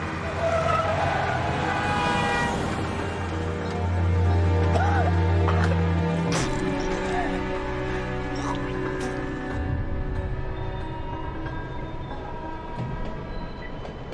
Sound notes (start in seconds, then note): 0.1 tires screech; 2.1 car horn honks; 4.6 coughing